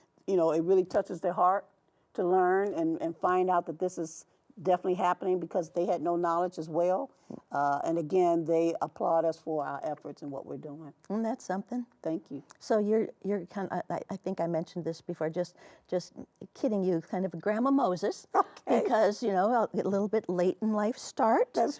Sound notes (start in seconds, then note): 18.6 chuckling